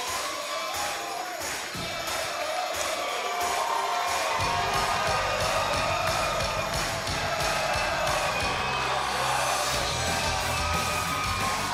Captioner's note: crowd cheering